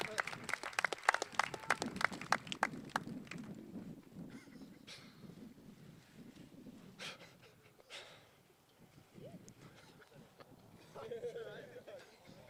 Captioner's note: cheers and applause